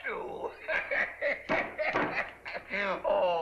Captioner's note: laughing